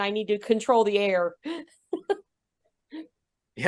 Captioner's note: laughs